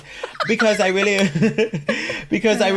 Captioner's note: both laughing